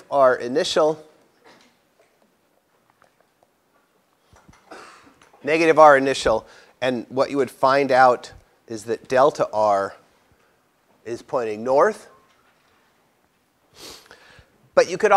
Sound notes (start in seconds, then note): 4.6 cough